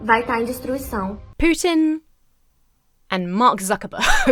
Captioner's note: laughs